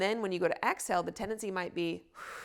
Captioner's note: exhales sharply